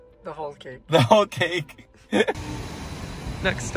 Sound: laughing

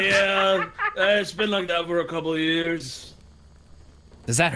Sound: laughs

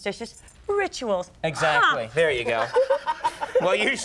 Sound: Andy laughing

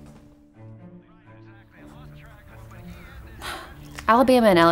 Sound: TV Sounds

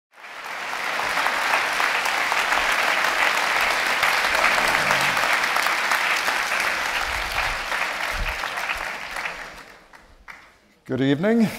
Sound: applause

